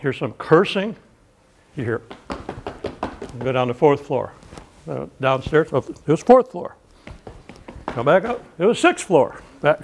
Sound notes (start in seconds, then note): 1.6 footsteps